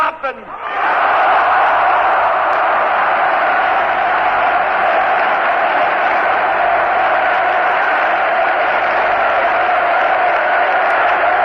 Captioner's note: applause, Screams: "Yes"